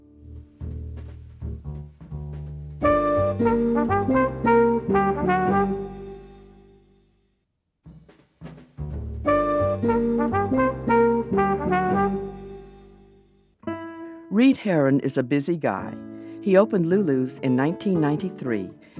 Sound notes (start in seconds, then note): 0.3 lively music; 9.2 lively music; 14.1 voiceover